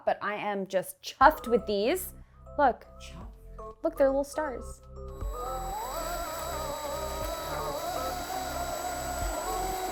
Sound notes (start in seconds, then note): 5.0 drill whirring